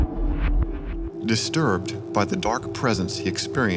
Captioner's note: voiceover